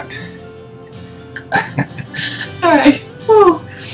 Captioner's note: laughing